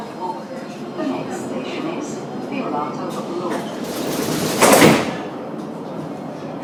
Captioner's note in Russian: закрытие дверей